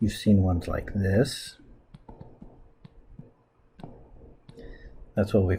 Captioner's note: writing Sounds